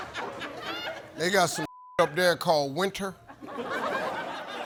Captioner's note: beep